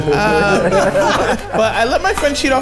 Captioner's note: everyone laughs